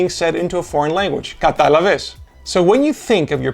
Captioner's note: in Greek